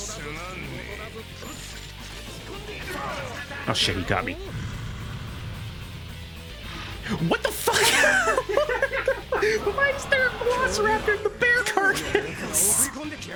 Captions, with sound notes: "Oh shit, you got me." What the fuck?! *Laughter* "Why was there a velociraptor in that bear carcass?!"